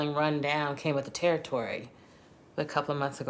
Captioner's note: none